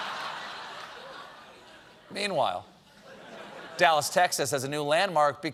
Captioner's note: laughter